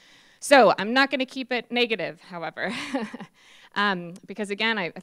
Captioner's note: laughs